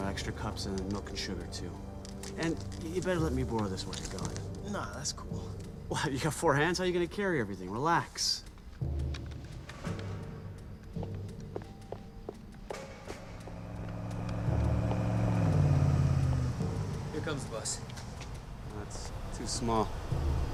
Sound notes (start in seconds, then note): 12.8 vehicle approaching